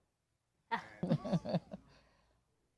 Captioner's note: chuckling